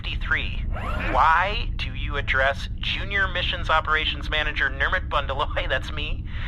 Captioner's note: Nermut chuckles